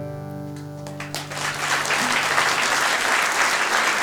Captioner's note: applause